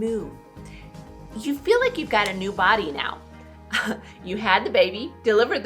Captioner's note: chuckles